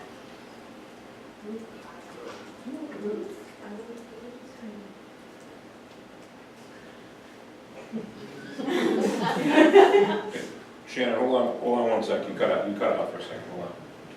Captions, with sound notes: (audience mutters quietly) (audience laughs) - Shannon, hold on one second. You cut out for a second, hold on.